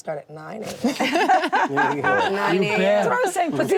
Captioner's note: all laugh